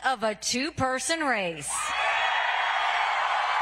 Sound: applause

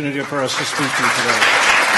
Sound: applause

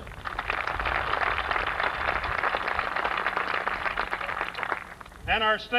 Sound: applause

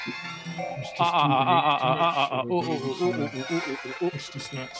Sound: chuckles

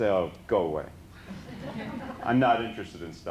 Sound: laughter

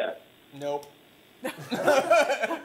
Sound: laughter

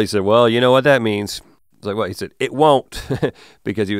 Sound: chuckles

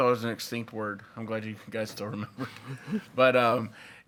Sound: laughs

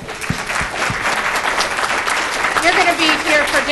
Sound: audience applause

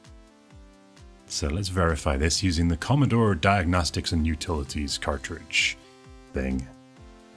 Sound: American accent

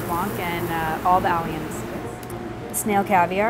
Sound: speaking faintly off mic

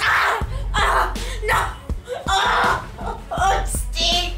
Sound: groans in pain

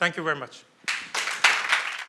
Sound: applause

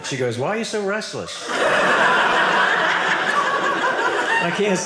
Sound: audience laughing

